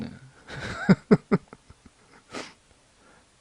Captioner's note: laughs